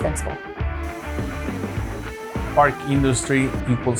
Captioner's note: machine whirring